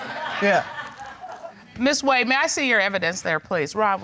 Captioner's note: audience laughing